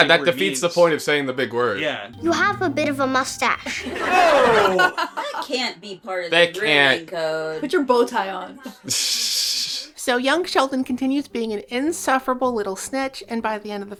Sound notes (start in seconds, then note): 9.1 snickering